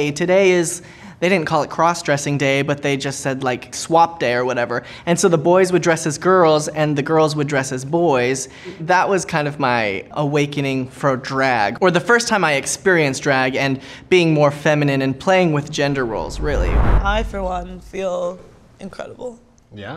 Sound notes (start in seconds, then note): none